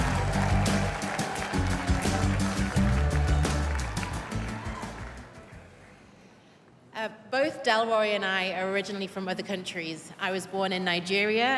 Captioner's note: cheers and applause